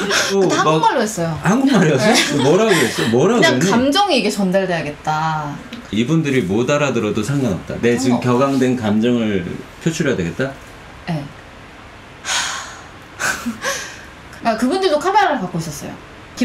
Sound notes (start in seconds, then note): 13.6 sigh